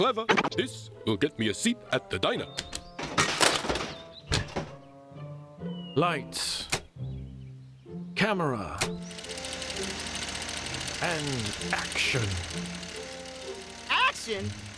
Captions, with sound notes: THIS WILL GET ME A SEAT AT THE DINER. LIGHTS. (click) CAMERA. (film rolls quietly) AND ACTION. ACTION?